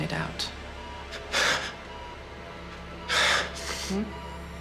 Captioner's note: sobs